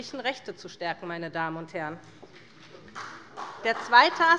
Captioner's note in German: Beifall bei der SPD